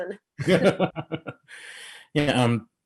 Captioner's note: laughing